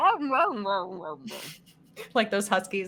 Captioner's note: snickering